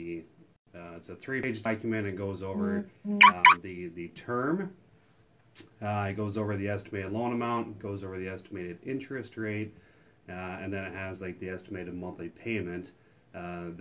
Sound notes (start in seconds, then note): 3.1 phone chirps